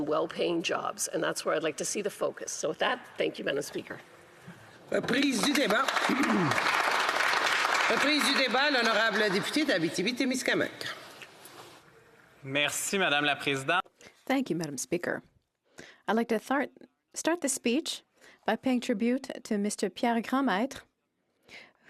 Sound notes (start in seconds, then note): 10.3 some Applause; 11.8 speaking French